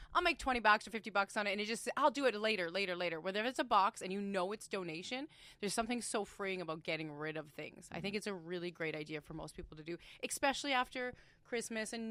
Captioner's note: inhales deeply